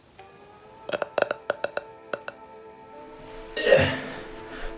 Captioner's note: grunting